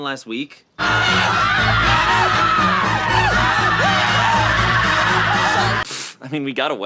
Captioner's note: kids screaming; ominous music